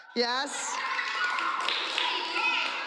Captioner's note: cheering and applause